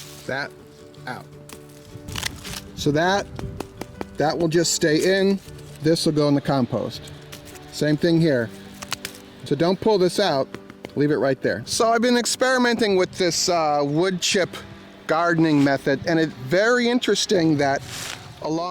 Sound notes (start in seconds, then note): 3.2 tapping on wood